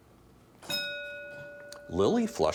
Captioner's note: bell dinging